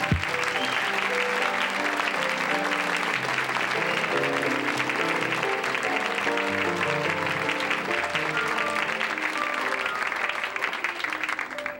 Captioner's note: audience applause